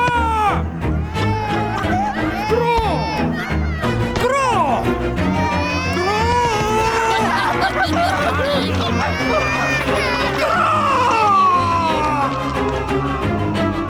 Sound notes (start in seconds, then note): 0.3 Moses shouting; 6.9 crowd making chaotic noises